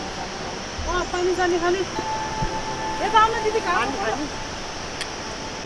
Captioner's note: indistinct conversation